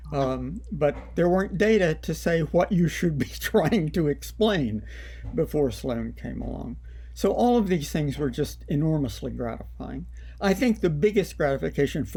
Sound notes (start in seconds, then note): 3.3 laughter